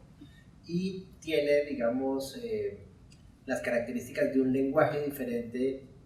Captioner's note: speaking in Spanish